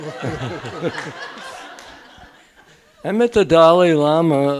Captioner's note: audience laughing